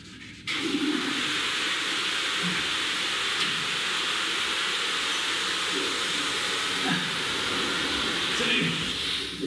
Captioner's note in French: bruit de chasse d'eau